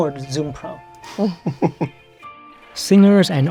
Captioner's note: laughs